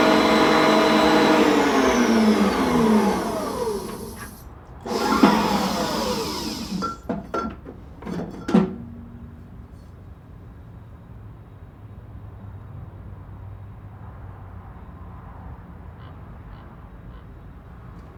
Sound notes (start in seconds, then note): 4.8 machine whirring; 6.6 metal rattling; 12.8 traffic humming faintly